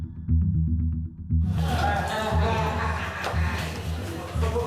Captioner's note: inmate laughing; indistinct chatter